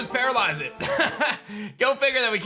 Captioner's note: laughs